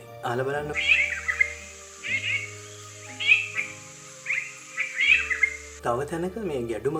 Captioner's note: yellow-browed bulbul calling